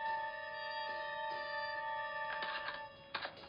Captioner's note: key turns in door